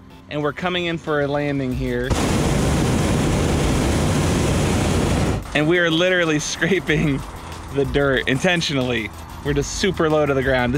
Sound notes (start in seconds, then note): 2.2 loud flame from burner